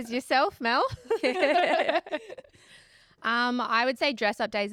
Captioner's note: all laughing